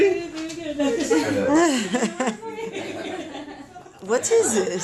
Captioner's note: laughter